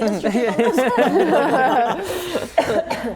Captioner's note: laughing